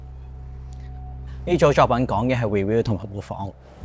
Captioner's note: Cantonese